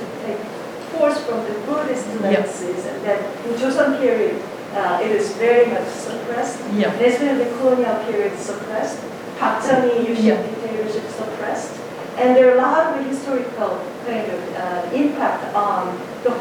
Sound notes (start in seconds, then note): 9.4 speaking in Korean